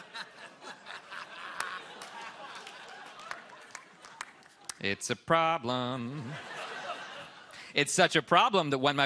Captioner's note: laughter